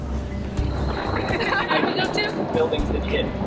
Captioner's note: laughing